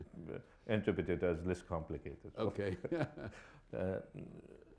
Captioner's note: chuckles